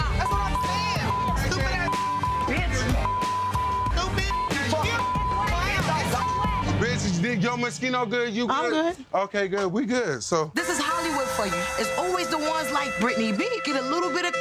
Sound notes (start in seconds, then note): 3.5 beeping; 6.5 beep